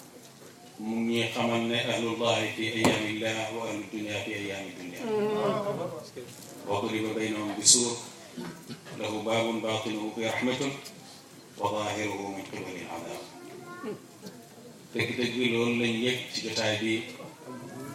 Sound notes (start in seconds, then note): 6.5 quote in Arabic